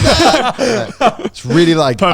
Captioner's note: both laughing